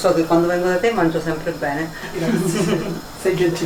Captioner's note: giggle